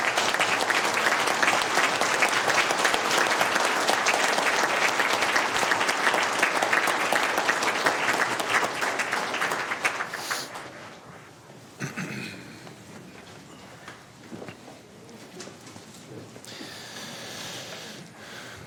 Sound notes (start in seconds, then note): 5.1 applause